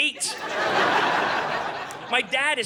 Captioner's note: audience laughing